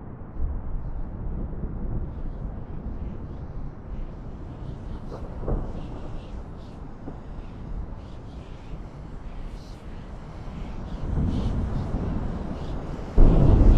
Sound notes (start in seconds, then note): 2.3 creepy whispers